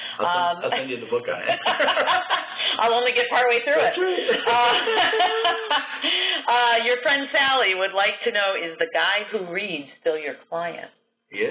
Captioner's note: laughter